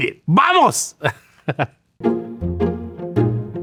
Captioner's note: speaking in Spanish; chuckling; upbeat music